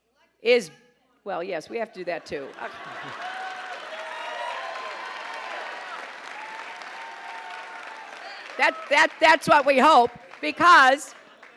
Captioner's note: applause